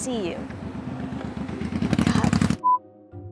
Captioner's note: obnoxiously loud motorcycle